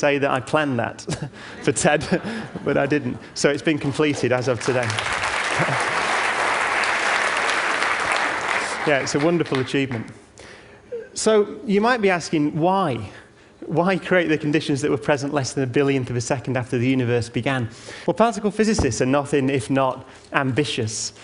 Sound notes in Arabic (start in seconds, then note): 3.8 تصفيق